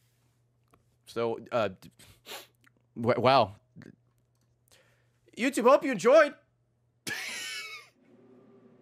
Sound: laughs

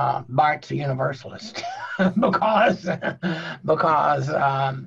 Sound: chuckles

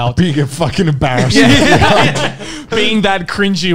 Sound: men laughing

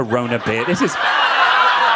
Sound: audience laughing

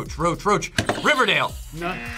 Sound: buzzer rings; buzzer

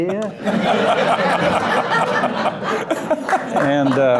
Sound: loud laughter

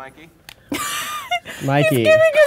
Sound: laughs

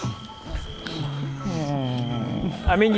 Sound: contented couple sighs

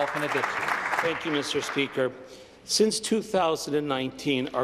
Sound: applause

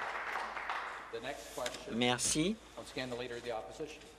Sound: some Applause

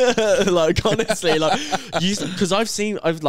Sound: laughing

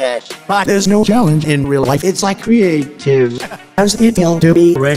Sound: haha

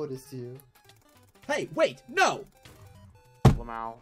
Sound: table Slam

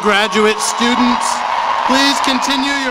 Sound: cheering and applause

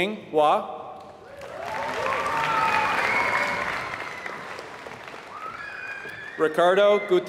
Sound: applause

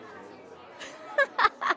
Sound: laughs

